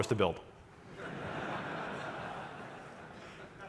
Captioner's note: laughter